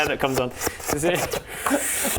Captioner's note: slp slup slurrprp